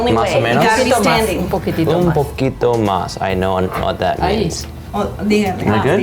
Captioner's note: speaks in Spanish